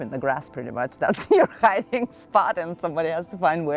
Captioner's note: laughs